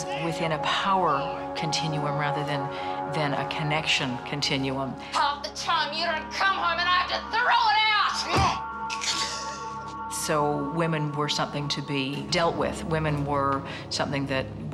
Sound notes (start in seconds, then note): 8.2 groans; 8.9 grunts